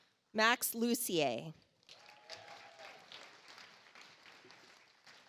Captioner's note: audience applauds